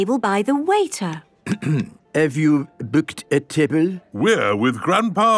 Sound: clears throat

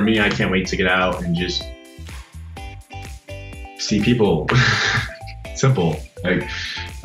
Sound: laughs

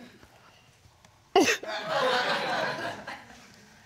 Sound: audience laughing

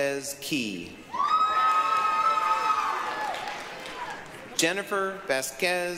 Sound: applause, cheering

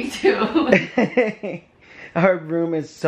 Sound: laughing

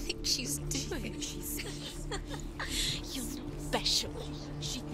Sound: laughs

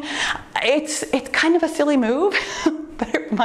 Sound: chuckles

